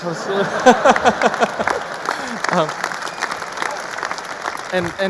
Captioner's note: audience applauding; audience laughing